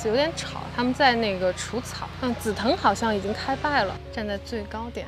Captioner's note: mowing